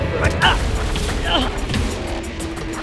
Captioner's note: thump; Dom cries out; fast serious music